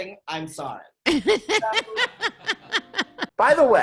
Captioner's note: laughing